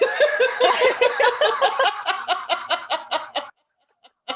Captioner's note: laughter